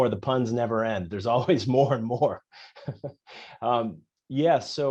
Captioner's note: laughs